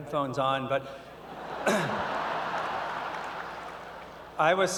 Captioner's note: laughter